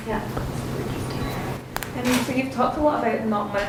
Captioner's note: whispering